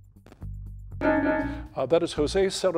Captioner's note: bell dings